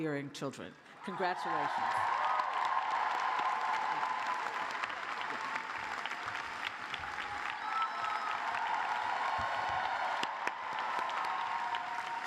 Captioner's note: cheers and applause